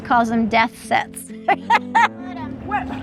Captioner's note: laughs